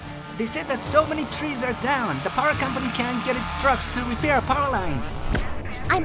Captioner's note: none